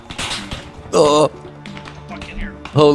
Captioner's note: groans